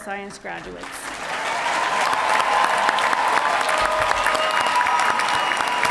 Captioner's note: audience applauding and cheering